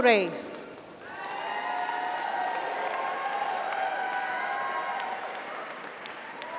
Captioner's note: audience applauds; audience cheers